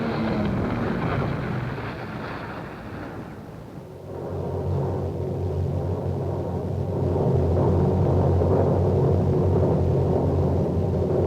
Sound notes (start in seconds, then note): 0.0 car engine revving; 5.2 low rumbling